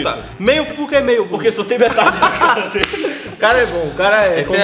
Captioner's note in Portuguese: Risadas